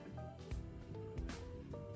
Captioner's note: none